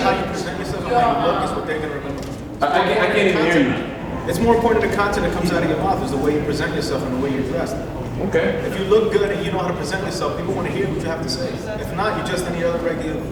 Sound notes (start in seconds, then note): 0.0 crowd agrees